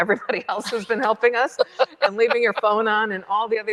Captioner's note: chuckles